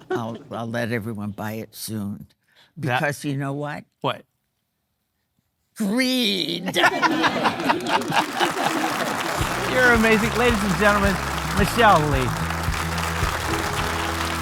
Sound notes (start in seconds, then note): 8.7 audience laughing; 8.7 laughing